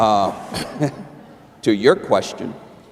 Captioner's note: laughter